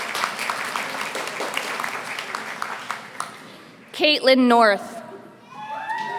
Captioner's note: applause